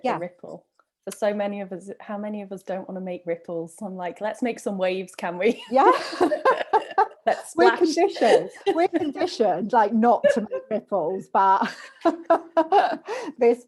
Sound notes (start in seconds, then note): 5.8 laughs; 11.6 laughter